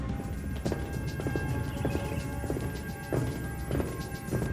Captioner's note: scanner bleeps